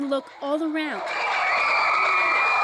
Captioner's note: screaming